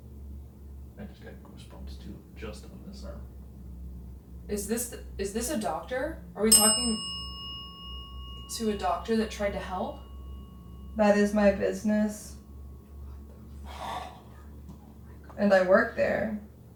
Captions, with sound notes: - I just got goosebumps, too. Just on this arm. - Is this a doctor? (bell dings) Are we talking to a doctor that tried to help? - That is my business. - What the... - Oh. - And I worked there.